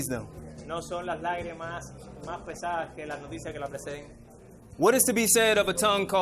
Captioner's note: interpreter speaking in foreign language